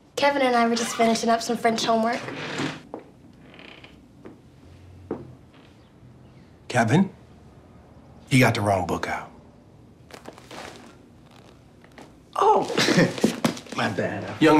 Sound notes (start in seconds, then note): 3.3 door creaking